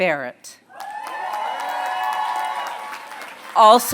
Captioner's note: applause